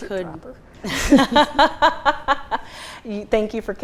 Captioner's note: laughing